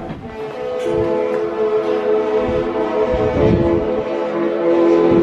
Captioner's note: horn honking continues